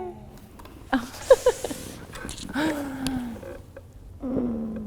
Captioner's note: laughs